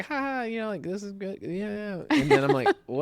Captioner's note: laughs